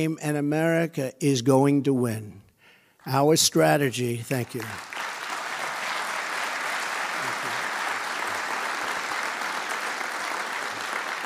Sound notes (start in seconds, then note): 4.4 audience applauding